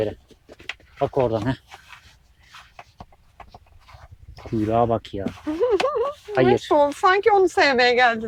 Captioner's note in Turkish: kahkaha